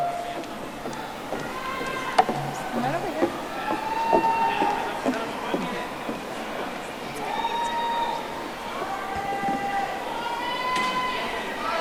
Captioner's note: audience cheering